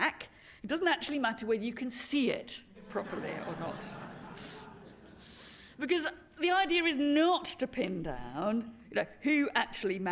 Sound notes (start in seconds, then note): 4.7 laughter